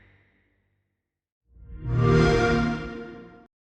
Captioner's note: xbox sound